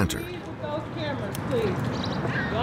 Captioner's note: shouting